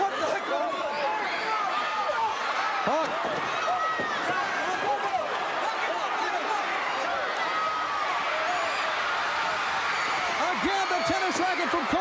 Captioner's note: crowd cheering